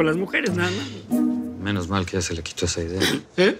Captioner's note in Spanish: Susurra